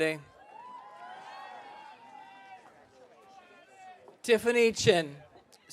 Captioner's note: audience cheering